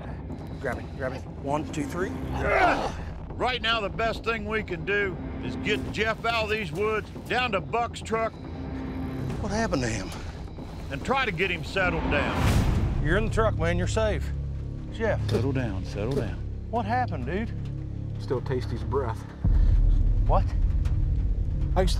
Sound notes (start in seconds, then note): 2.2 groaning